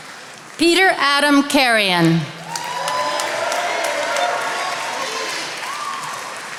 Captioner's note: attendees applauding